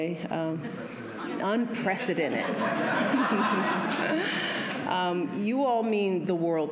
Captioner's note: laughter